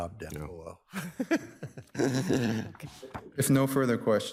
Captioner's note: all laughing